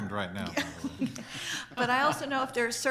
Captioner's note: board members laugh